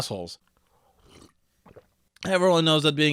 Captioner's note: drinking sounds